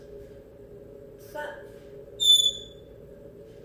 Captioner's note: smoke alarm chirp